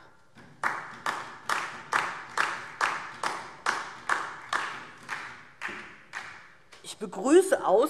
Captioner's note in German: Beifall DIE LINKE und vereinzelt SPD